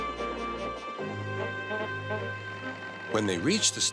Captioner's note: car horn honks